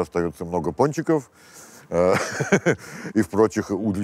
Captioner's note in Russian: смеется